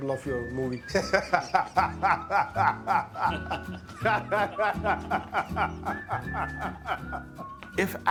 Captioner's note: laughs